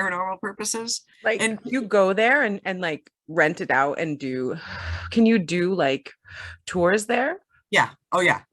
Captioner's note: exhales